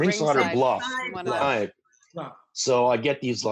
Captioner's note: everyone talking